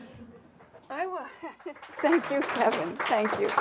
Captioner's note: crowd lightly laughing; crowd applauding